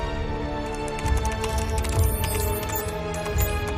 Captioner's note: keyboard clicking; suspenseful music